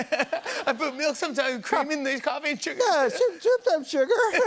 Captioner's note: laughing throughout; laughing; laughing